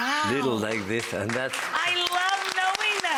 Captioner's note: audience applauds